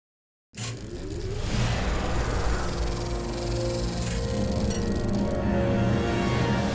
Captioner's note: projector sound